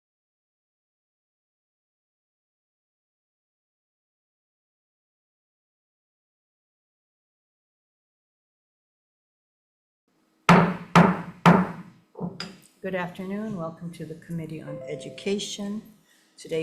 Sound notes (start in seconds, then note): 10.5 gavel pounding